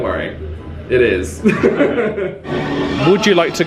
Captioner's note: laughs